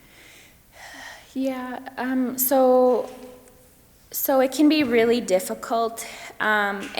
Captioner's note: sighs